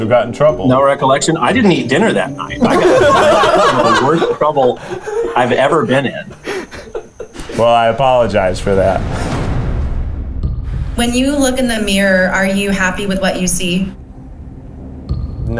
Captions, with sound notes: Who got in trouble? - No recollection? I didn't eat dinner that night. (laughing) The worst trouble I've ever been in. - I apologize for than. (intense music) - When you look in the mirror, are you happy with what you see?